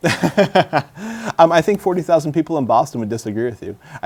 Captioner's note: laughter